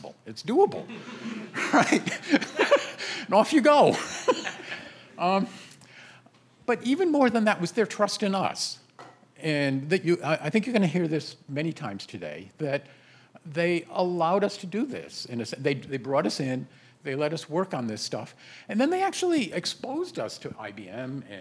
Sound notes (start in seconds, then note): 0.8 laughter